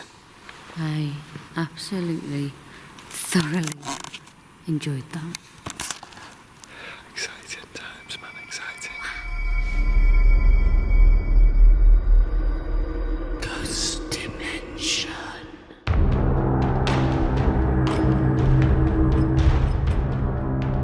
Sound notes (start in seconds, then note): 11.4 creepy ambience; 14.0 whispering Voices; 15.6 suspenseful percussion music